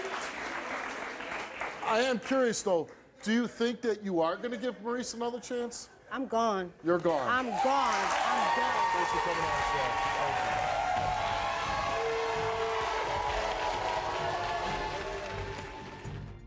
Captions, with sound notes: I am curious though, do you think that you are gonna give Maurice another chance? - I'm gone, I'm gone. - You're gone. - I'm done. Thanks for coming out as well, thank you. (audience claps and cheers) (suspenseful music)